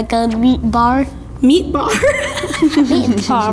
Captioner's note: laughing